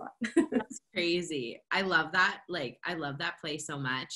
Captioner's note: laughter